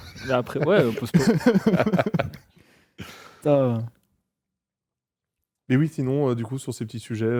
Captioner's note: laughs